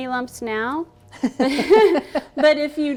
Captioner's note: laughing